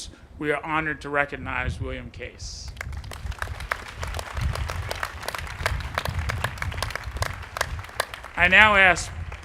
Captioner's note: applause